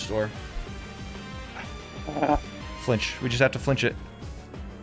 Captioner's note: growling